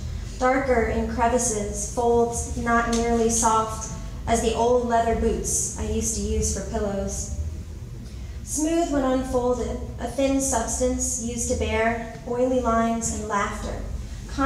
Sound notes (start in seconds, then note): none